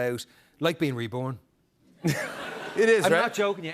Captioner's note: laughter